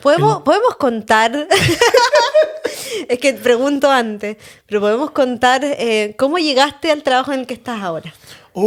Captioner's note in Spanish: risas